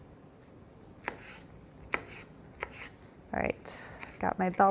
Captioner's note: knife chops